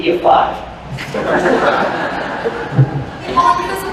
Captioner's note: laughter